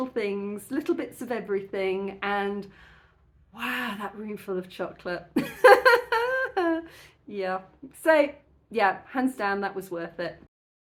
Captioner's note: laughing